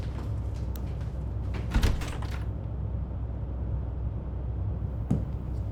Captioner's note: footsteps tapping; door clicks; footsteps tapping